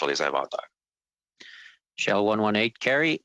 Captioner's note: speaking French